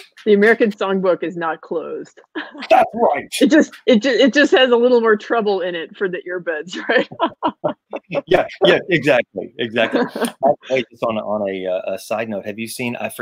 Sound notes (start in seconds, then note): 0.0 mic cuts out; 6.7 laughing